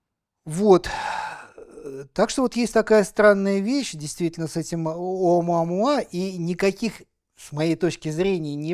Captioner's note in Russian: вздыхает